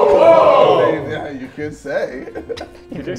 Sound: JJ laughs

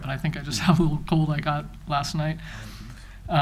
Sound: chuckles

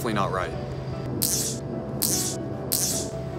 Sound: static noises

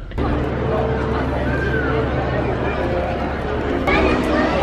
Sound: crowd chattering

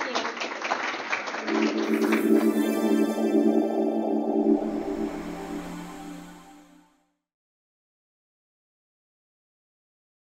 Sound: applause

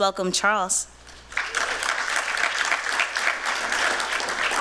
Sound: applause

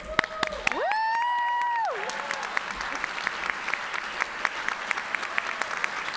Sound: audience cheering and applauding

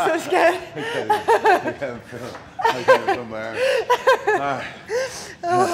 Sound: laugh

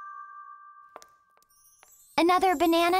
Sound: footsteps

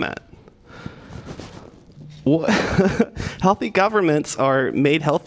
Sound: laughter

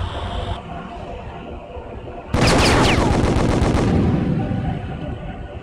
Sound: pew pew pew; atmospheric sound track

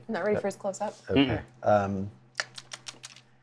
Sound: smacks lips

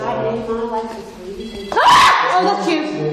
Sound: machine beeps; screams

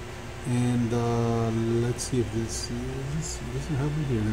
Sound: speaks faintly

